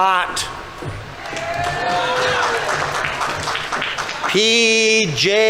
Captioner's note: audience applauding